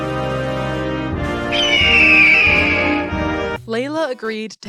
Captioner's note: lets out a patriotic eagle screech